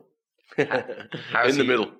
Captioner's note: laughs